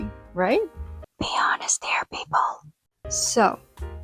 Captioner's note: whispers